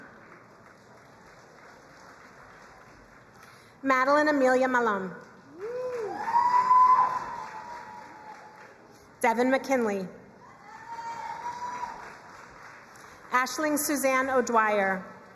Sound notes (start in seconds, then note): 0.0 crowd applauding; 5.4 crowd cheering and applauding; 10.5 crowd cheering and applauding; 15.1 crowd cheering and applauding